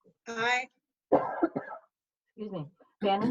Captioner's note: coughing